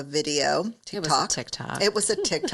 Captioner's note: laughs